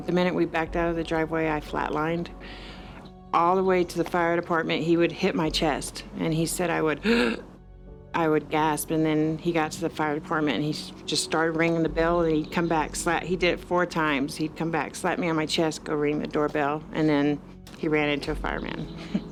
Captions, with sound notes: the minute we backed out of the driveway, I flat lined. All the way to the fire department, he would hit my chest and he said I would (gasping). I would gasp and then he got to the fire department and he just started ringing the bell and he'd come back, slap, he did it four times. He's come back, slap me on my chest, go ring the doorbell and then he ran into a fireman.